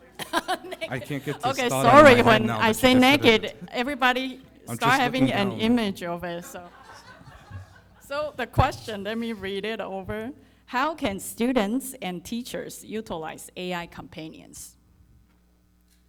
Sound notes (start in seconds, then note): 6.3 audience laughing